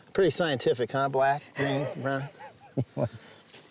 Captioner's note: laughing